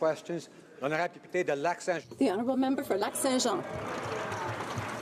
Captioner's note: applause